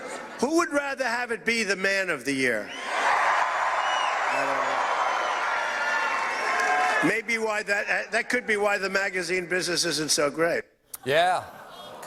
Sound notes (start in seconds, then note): 2.6 cheers